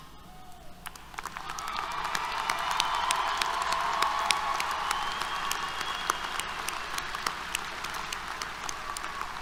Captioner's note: applause, Cheers